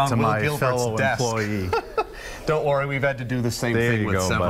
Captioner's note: laughter